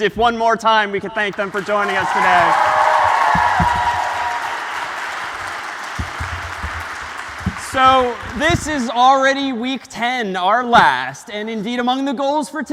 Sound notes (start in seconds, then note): 1.2 applause